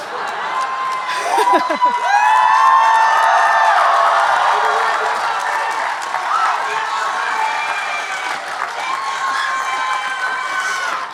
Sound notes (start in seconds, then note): 1.0 audience and Speaker laughing; 2.2 audience cheering and applauding